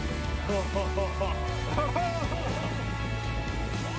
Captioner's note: laughs